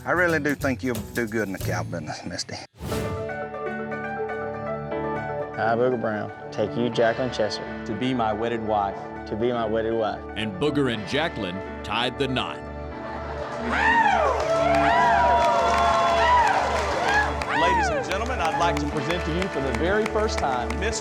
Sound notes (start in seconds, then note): 13.3 cheering, clapping